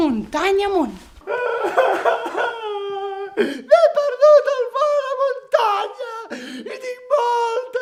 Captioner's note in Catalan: veu de nen